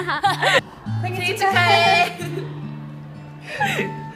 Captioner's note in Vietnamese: tiếng hàn